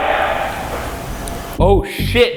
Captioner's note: mysterious tapping